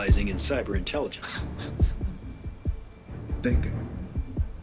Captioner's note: Kent chuckling